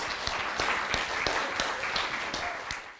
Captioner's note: applause